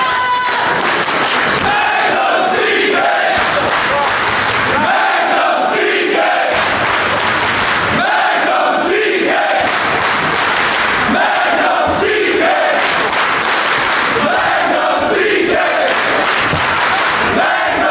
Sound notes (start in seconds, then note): 0.0 clapping; 6.4 clapping; 12.7 clapping